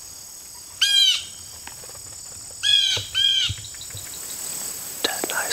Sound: Bluejay squawking

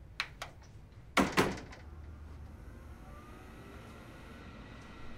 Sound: hitting monitor

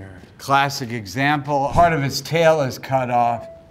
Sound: image whooshes; photo dings

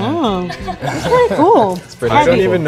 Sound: people laughing

